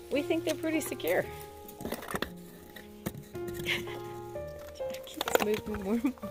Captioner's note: laughing